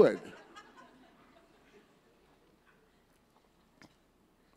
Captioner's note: audience laughs